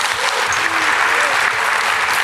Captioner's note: applause